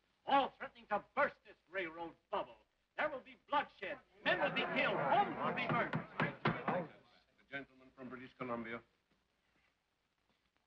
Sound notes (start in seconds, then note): 5.6 gavel bangs; 6.6 men chatter